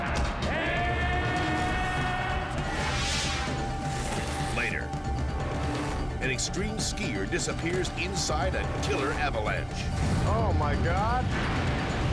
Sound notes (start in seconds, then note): 2.6 air whooshes; 11.8 avalanche rumbles